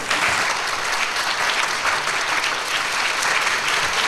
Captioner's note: audience applauds loudly